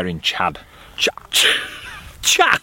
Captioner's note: laughs